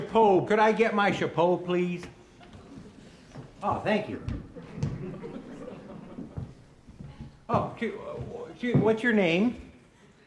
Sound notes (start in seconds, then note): 4.5 audience laughing